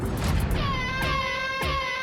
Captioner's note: air horn